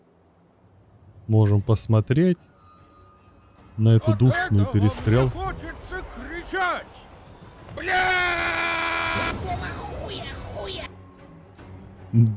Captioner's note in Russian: крик